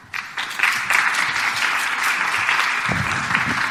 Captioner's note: applause